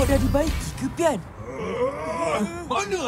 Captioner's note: Troket growls